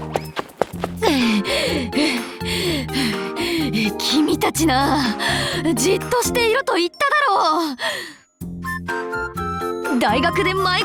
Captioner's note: out of breath